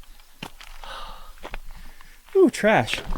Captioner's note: sighing